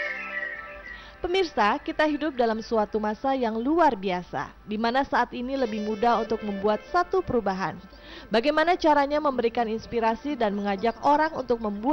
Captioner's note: non-english speech